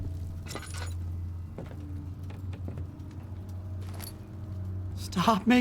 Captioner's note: footsteps